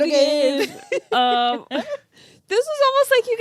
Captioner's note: laughing